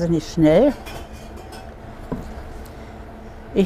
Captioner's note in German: Gläser klirren